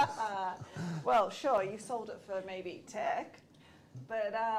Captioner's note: laughter